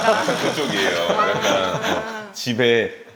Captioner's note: chuckles